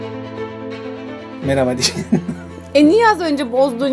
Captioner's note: laughs